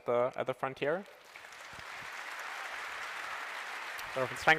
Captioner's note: applause